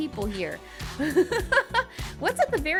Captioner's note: laughing